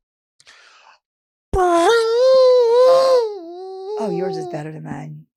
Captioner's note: Delta purring